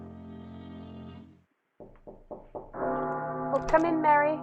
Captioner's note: musical accent; bell tolling, knock at door